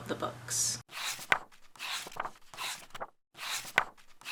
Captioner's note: pages turning